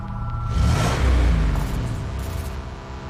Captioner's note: engine